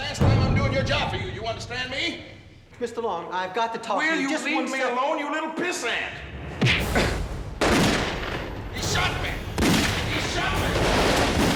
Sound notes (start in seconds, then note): 6.6 gun shot